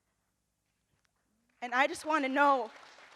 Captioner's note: audience applauds